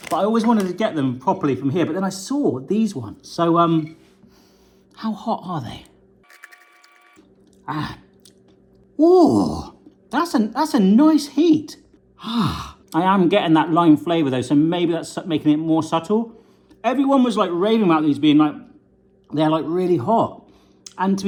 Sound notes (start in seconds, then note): 3.6 sniffs; 6.3 munching